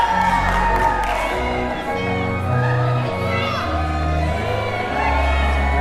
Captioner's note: crowd cheering; indistinct chatters